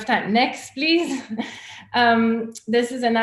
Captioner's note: chuckles